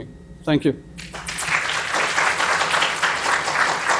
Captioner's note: applause